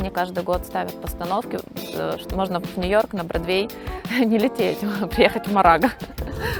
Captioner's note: laughs